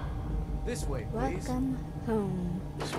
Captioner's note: in creepy voice